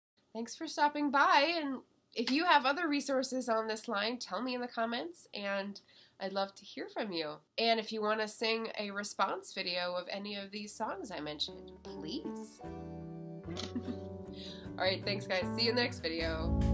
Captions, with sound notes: thanks for stopping by and if you have other resources on this line tell me in the comments and i'd love to hear from you and if you want to sing a response video of any of these songs i mentioned please [chuckles] all right thanks guys see you next video.